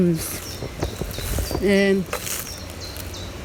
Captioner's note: birds chirping